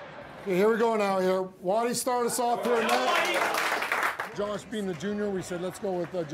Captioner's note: clapping